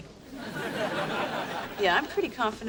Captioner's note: laugh track laughs